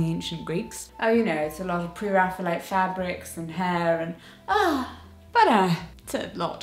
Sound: gasp

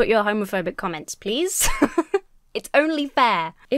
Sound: laughs

